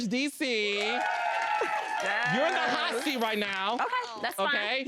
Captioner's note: audience cheering